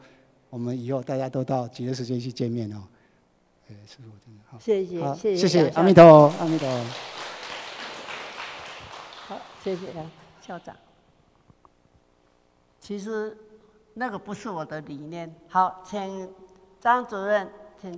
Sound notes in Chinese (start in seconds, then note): 5.8 眾人鼓掌